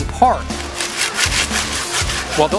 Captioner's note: sawing